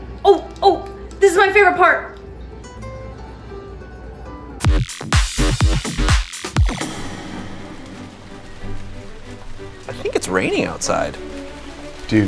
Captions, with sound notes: Oh, oh! This is my favorite part! (soft music) (upbeat music) (smooth music) (rain pattering) - I think it's raining outside.